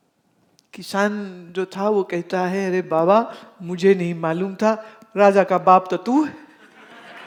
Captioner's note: laughter